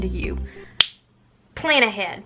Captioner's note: snap